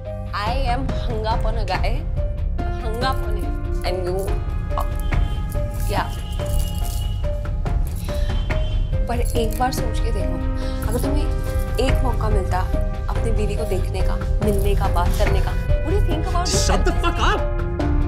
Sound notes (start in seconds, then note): none